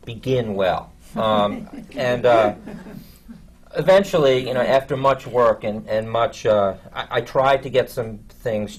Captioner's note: laughter from the panel